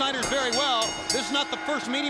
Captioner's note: bell ringing